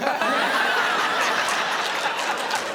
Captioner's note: laughter